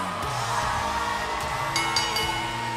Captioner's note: bell ringing